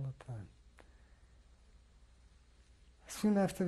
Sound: pauses for 3 seconds

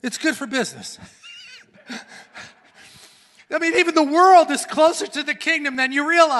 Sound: laughs

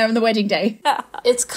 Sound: laughing

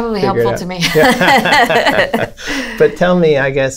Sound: laughter

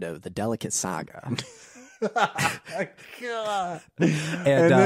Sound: laughing

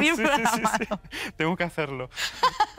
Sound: laughs

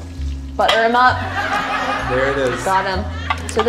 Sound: audience laughing

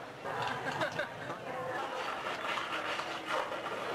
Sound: person laughing

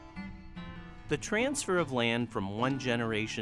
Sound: voiceover

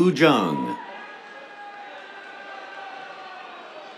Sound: cheers, applause

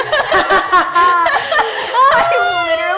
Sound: both laughing

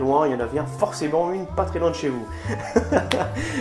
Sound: laugh

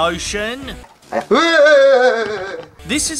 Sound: panicked Screaming

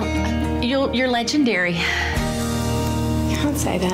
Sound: sighs

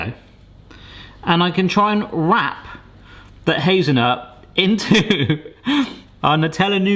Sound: laughing

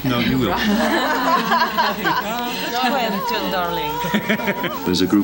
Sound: laughter

